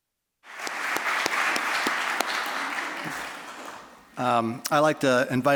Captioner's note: applause